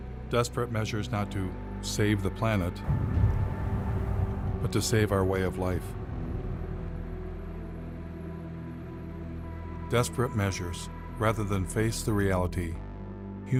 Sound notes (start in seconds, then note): 2.8 gök gürültüsü çöküyor; 6.6 kasvetli müzik